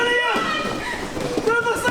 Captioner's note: screaming